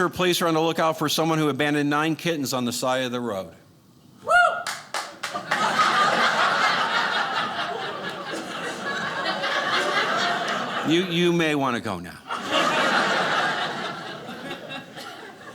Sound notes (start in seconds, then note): 5.3 audience laughing